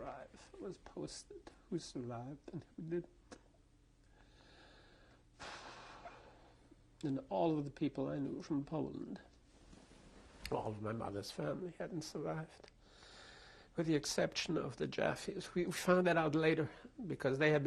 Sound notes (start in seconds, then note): 5.4 sighs